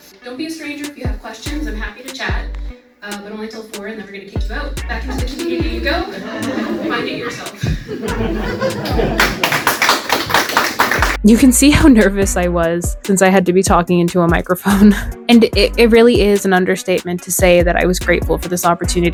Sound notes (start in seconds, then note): 7.9 laughter; 9.1 clapping